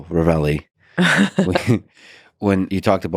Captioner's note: Lisa laughs